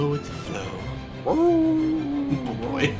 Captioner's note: howls